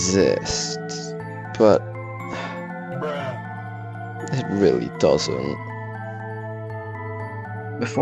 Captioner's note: sigh